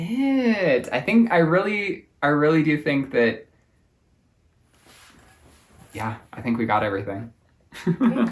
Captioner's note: laughs